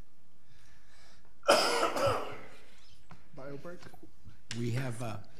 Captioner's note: coughing